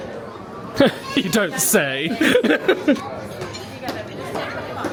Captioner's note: laughs